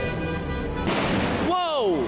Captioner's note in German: Feuerwerk